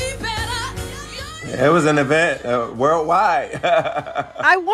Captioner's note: laughter